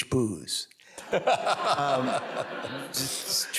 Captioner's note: audience laughs